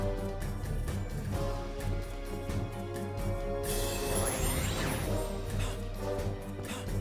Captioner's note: gasping; grunting